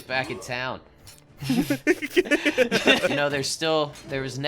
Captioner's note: both Laughing